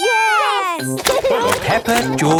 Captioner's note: laughing